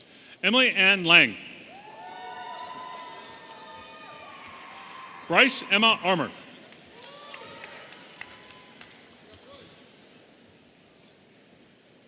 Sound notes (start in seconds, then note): 1.6 audience cheering